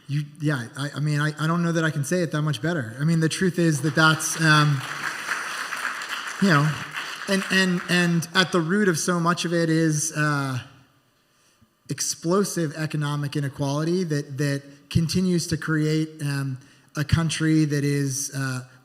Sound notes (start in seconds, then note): 6.4 applause